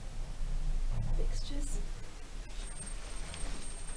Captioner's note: lift squeaks while levelling